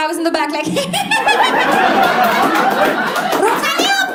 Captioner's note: evil laugh